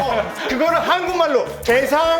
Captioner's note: wife in Korean